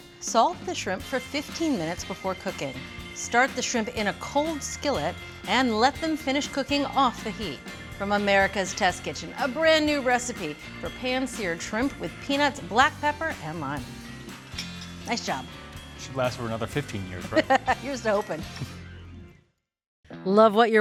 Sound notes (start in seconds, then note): 2.7 upbeat music; 17.2 chuckles; 19.7 upbeat music